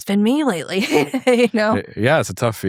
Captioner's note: laughs